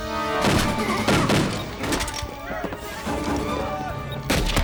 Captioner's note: gunshots; people clamoring